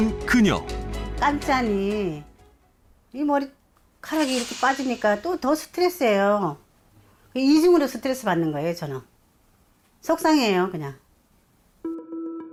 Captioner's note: voiceover